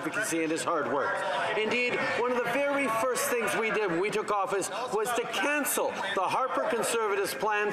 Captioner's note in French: voix de l'interprète